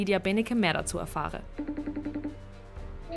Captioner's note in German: Anrufton